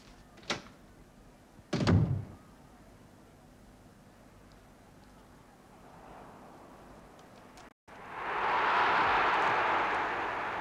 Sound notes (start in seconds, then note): 1.7 door closes; 7.9 crowd roars